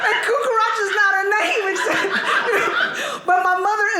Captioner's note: audience laughing